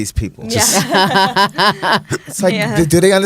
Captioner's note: laughing